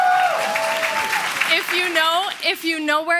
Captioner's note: applause